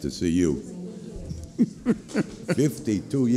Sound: laughter

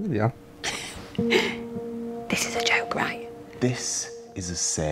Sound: laughs

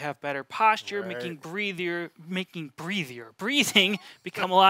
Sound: laughs

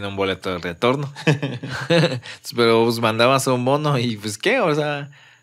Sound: laughs

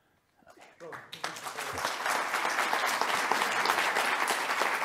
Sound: audience applauding

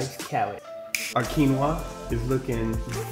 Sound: snaps fingers

